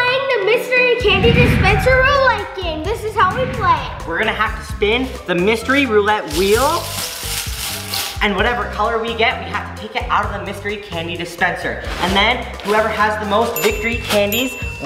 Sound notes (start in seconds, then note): 6.7 balls rattling; 6.7 playful, melodic music